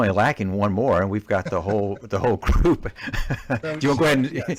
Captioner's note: laughs